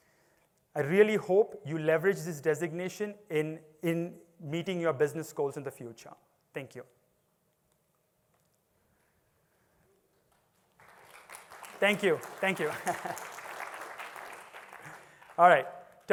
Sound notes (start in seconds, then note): 10.2 applause